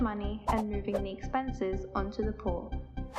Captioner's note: swoosh